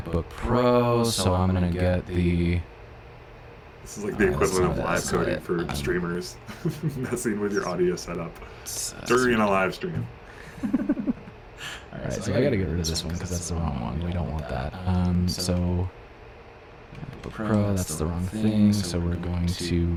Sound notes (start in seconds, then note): 10.4 laughter